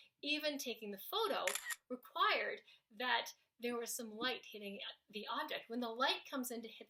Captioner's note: snaps photo